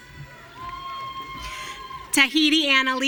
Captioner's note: audience cheering